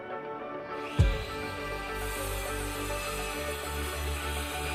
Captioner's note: saw whirring